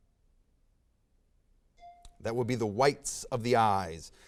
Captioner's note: bell dings